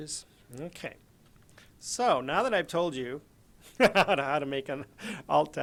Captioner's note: laguhs